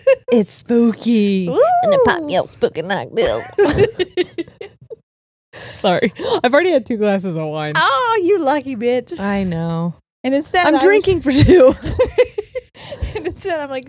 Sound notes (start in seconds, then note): 1.4 both laughing